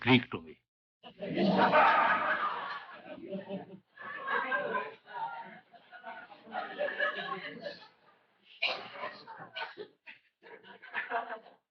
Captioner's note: laughter